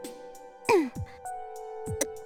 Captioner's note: clearing throat